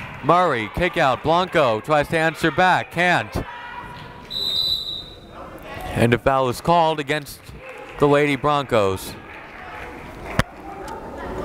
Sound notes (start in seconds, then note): 4.2 whistle